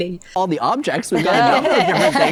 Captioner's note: guests laugh